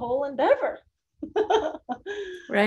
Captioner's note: chuckles